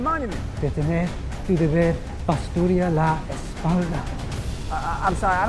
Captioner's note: scientist speaking in foreign language